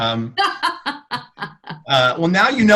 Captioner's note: all laugh